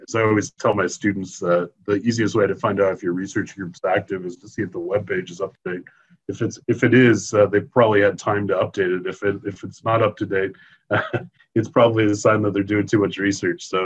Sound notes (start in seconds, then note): 10.9 chuckles